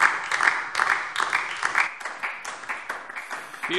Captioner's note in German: Beifall DIE LINKE